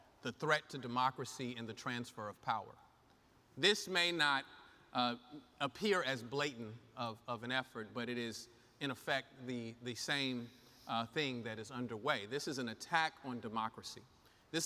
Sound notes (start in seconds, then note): none